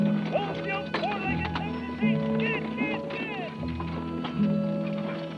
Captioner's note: speaker trails off; gentle music